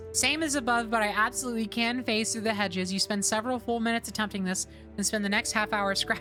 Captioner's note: none